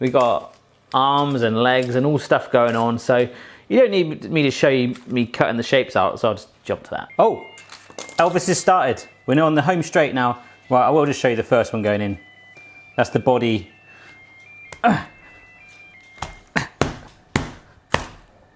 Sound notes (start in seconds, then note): 15.0 slapping